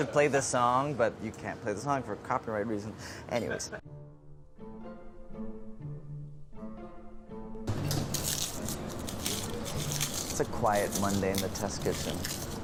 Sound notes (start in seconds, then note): 7.7 garlic peels crinkling